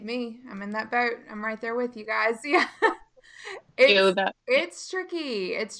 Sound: laughing

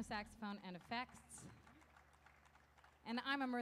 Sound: audience applauding

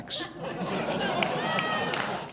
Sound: audience laughing

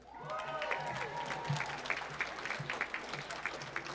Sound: applause

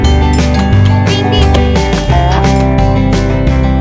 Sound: bell dings

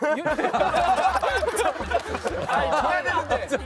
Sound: cracking up

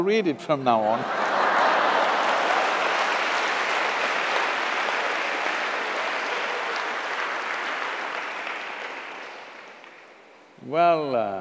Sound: laughter/Applause

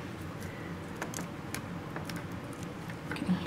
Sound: bone/tissue breaking sounds

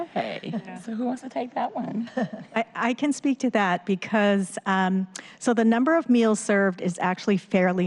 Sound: laughter

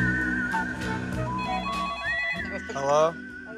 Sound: phone ringing

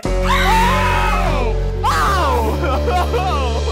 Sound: screaming; laughing

